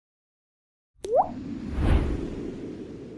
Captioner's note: waterdrop; wind